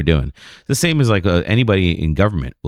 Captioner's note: uh